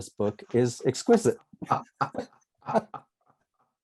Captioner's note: laughter